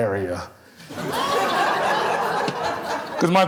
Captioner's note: audience laughing